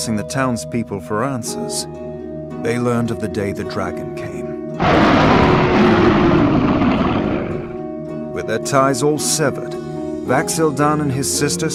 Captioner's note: roar